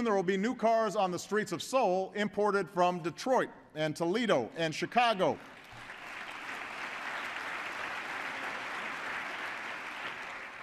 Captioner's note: applause